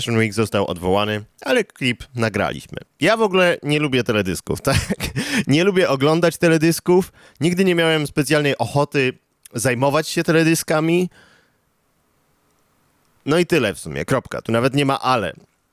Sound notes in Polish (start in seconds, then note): 4.6 śmiech